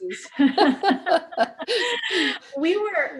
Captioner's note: laughs